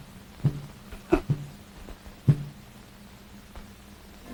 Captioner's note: Mandy scoffs